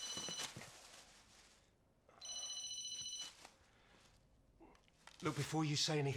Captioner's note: phone rings; phone rings